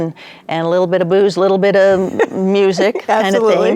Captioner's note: chuckling